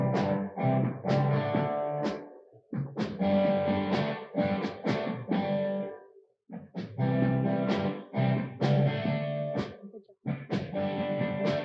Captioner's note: applause